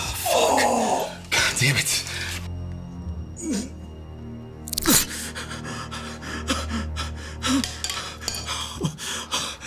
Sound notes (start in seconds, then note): 2.5 ominous music; 5.4 Anderson huffing